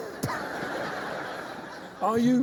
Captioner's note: laughter